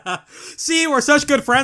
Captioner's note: both laugh